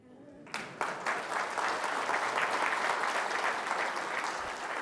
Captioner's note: applause